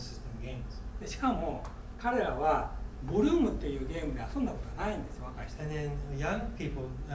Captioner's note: speaking in foreign language